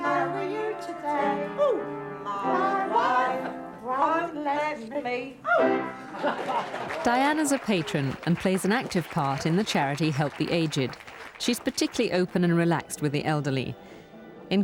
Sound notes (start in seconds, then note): 6.0 laughing